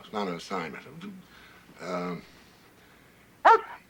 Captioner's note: dog whines